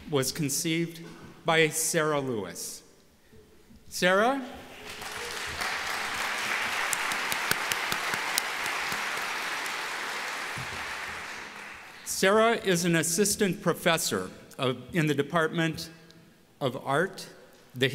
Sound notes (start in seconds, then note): 4.7 applause